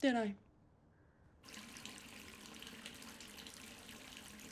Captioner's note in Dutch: water loopt